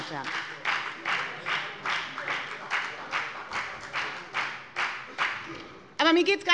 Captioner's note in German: Beifall bei der FDP